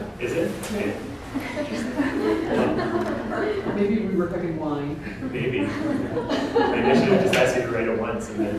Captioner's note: audience: Laughter